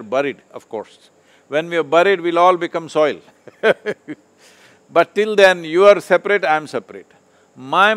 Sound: laughs

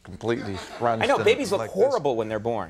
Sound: audience titters

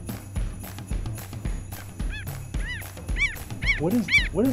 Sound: animal sounds

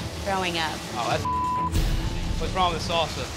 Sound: beep

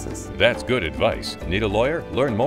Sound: voiceover

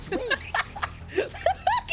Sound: laughter

